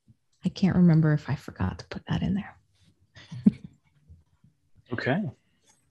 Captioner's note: laughs